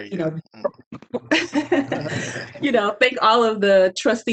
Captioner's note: trustees laughing